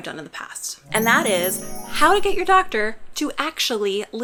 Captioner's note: magic chime